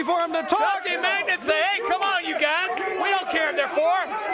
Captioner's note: crowd chatter